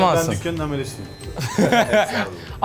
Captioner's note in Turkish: Gülüş